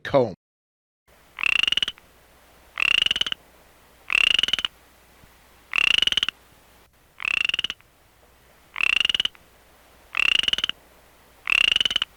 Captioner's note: western chorus frog call